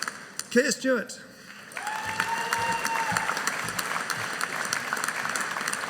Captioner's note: audience applauding